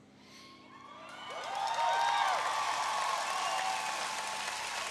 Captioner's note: audience cheering